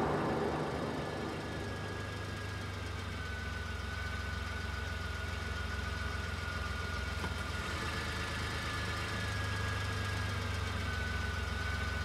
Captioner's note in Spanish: Disparo